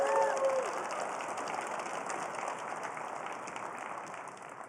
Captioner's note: applause